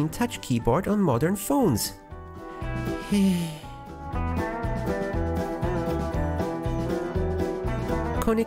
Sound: sigh

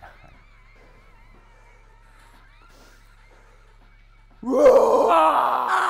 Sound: inhale; roaring

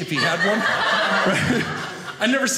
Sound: audience laughing

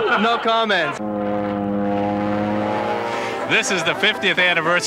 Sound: plane engine roaring

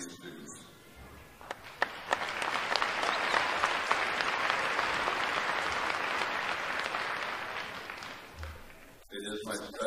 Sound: applause

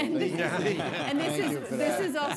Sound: everybody laughing

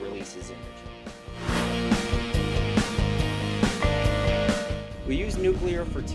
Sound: sound Effects

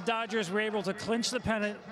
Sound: cheering

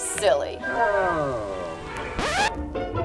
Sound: phone sound effects

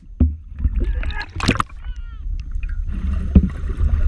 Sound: water splashing

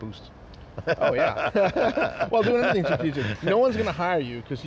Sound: laughing

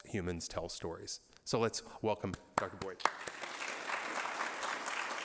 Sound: applause

